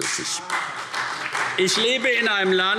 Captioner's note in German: Beifall CDU - Zuruf SPD